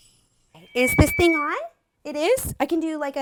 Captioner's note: microphone feedback